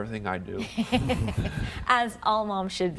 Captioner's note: laughter